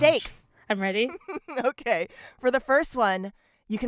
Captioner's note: laughter